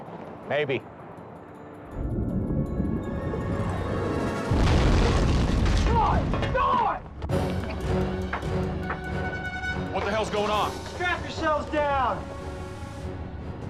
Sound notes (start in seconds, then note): 4.2 crash